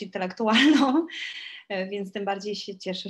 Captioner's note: śmiech